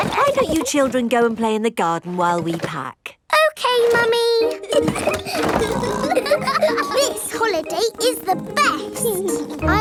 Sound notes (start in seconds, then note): 0.0 children laughing; 4.6 laughing and snorting